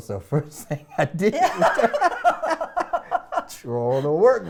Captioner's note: laugh